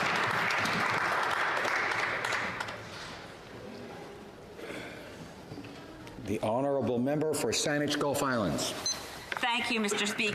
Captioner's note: applause